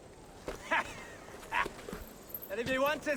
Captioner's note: laughs